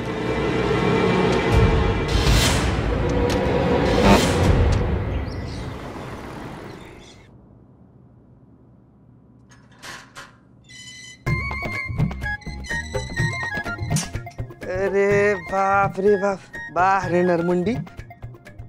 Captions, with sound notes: [dramatic music] [box sound] [door opening] [comical music] Oh, my God! Very good, a human face!